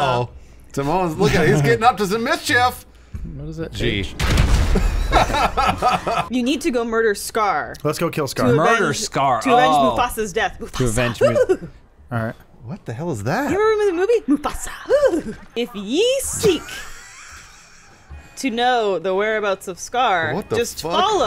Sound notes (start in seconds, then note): 11.4 strange laugh; 14.3 giggle again